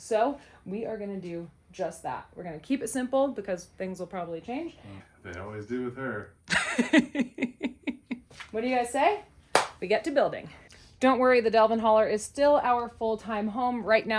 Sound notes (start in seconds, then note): 6.5 laughs; 9.5 palms smack